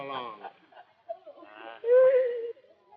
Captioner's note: sobs